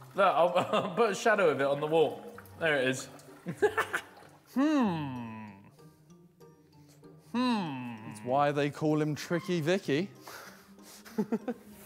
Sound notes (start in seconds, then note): 3.5 man laughs